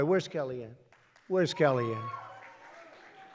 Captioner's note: applause